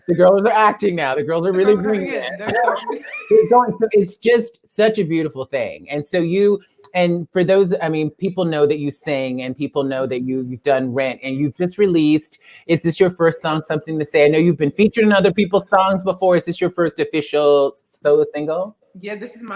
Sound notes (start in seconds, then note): 3.6 laughs